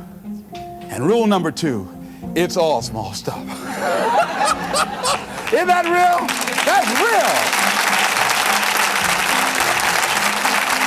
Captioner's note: chuckle